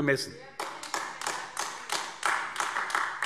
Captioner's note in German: Beifall AfD